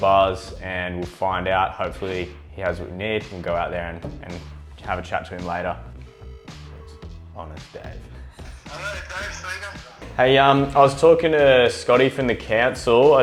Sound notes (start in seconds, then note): 5.8 phone rings; 8.5 on phone